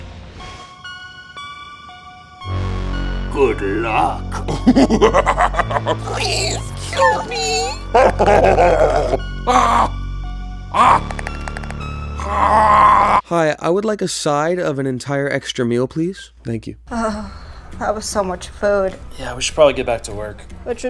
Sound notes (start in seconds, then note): 0.2 eerie music; 4.3 evil laugh; 7.8 evil laugh